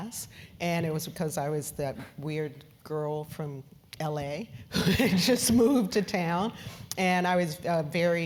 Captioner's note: laugh